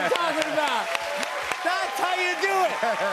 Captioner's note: chuckles; laughing